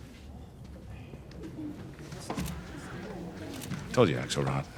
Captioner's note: people murmuring